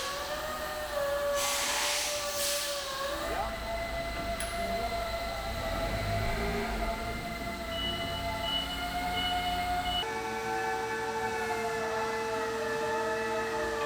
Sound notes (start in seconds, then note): 0.4 machinery whirring and rattling; 3.9 machinery whirring; 8.0 machinery beeping; 10.6 machinery whirring